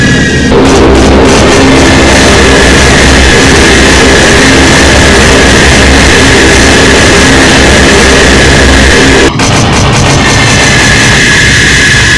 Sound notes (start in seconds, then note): 0.3 Boeing B-29 bomber dropping bombs; 9.3 Consolidated B-24 bomber dropping bombs